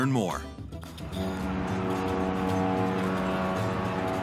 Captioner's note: horn blowing; upbeat music